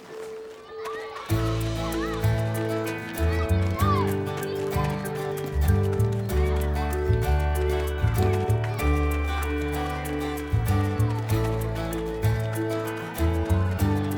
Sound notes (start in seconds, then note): 0.4 campers excitedly shouting; 0.8 upbeat music